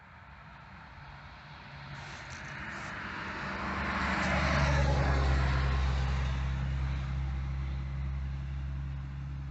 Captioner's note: car passing by on main road